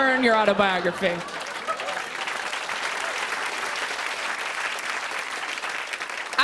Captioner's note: laughter and applause